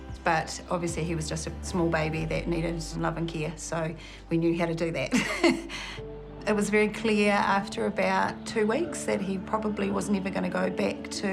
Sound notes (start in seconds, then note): 5.2 laughs